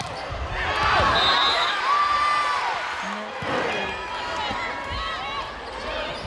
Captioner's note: crowd and players cheering